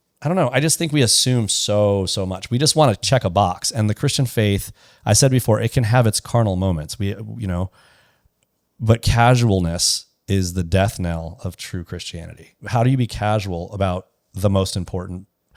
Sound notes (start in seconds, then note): none